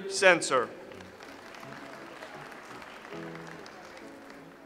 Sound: audience applauds

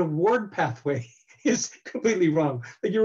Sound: laughs

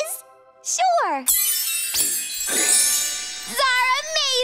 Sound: shimmering tone

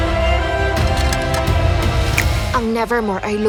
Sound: snaps fingers

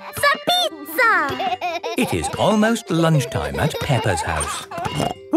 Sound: laughing

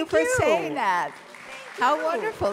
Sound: audience applause

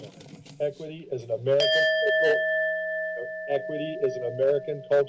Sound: timer beeps

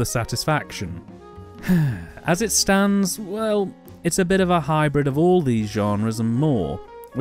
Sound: sigh

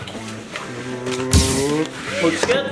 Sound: machine zapping; machine buzzing

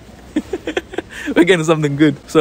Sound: chuckles

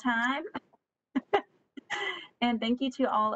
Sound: laughs

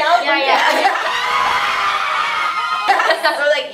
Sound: screaming; laughing

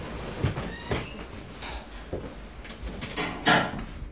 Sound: door opening

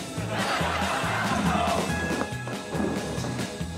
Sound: audience laughing

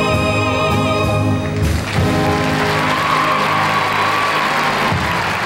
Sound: audience applauding and cheering

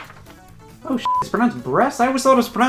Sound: beep

